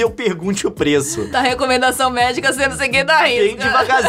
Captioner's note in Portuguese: risada